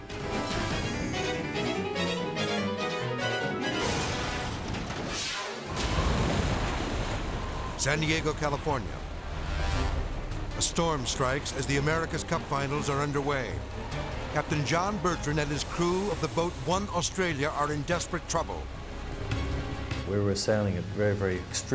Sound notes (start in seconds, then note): 0.2 dramatic music; 3.7 race car crashing; 5.9 waves crashing